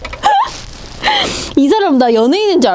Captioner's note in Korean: 웃는중